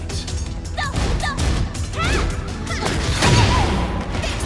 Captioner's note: upbeat music; strikes crashing